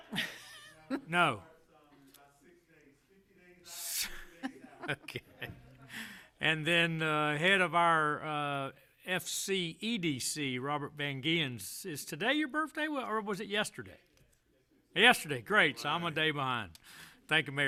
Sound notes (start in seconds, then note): 4.0 laughter